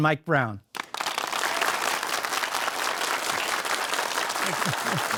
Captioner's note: audience applauding